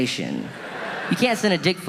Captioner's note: audience laughing